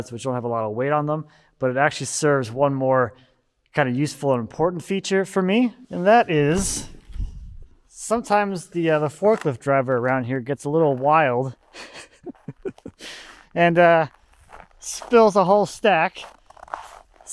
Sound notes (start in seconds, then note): 11.6 laughing